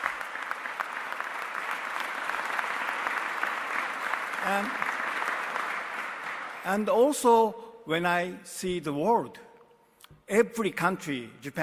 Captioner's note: applause